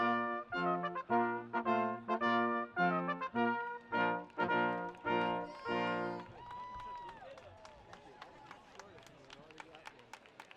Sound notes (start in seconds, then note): 6.7 audience cheering